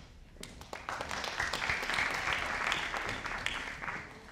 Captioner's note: audience applauding